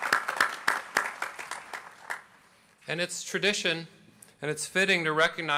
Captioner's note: applause